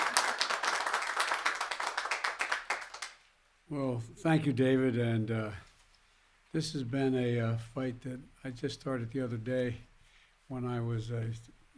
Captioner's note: applause